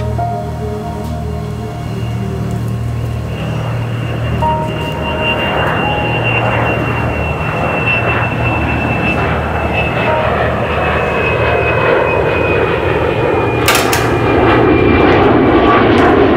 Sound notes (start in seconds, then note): 4.7 airplane landing